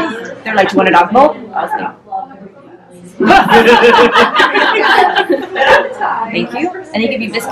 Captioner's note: laughter